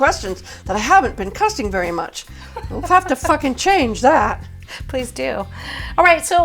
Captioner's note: giggle